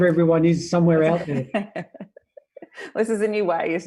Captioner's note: laughs